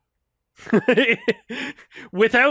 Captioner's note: laughs